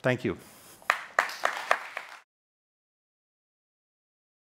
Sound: audience applauding

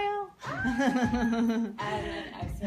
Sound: laughing

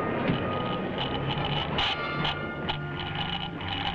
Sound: speaker crackling

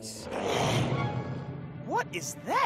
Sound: growling

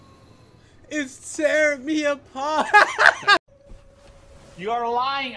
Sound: laughs

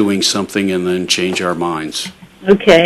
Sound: none

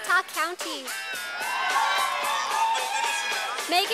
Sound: sound of cheers from audience

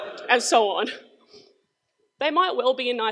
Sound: crowd laughs

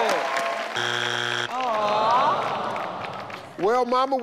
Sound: everyone applauds; buzzer sounds

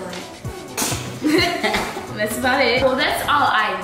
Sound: laughing

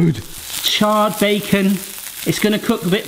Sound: bacon sizzling

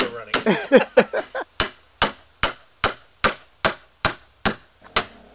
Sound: both laughing

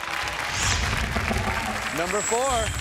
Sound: applause

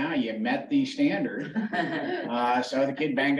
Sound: laughter

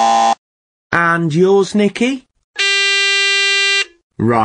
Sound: Nikkiís buzzer

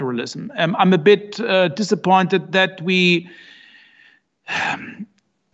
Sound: sighs

